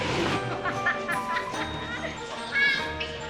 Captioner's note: laughing